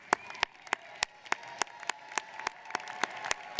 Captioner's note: audience cheers